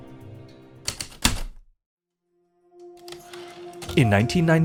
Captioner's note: heavy typewriter keystrokes, return slide